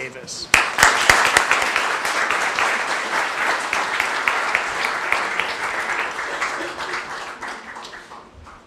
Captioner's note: applause